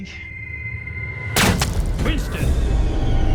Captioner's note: gunshot banging